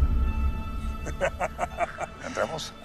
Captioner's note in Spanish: Risas